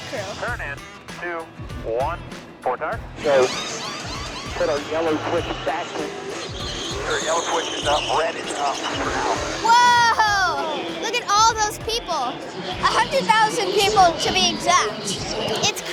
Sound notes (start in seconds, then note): 3.4 car engines roaring drowns out speaker